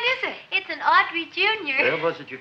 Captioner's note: none